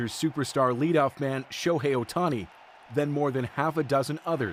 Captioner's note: cheering